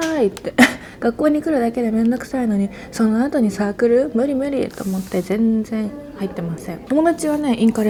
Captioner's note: laughs